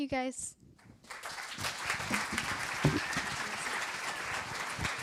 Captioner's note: applause